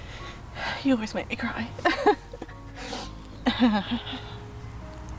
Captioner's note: chuckles and sobs